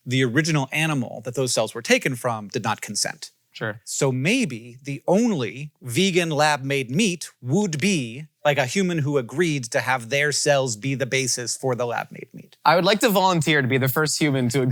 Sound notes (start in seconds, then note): none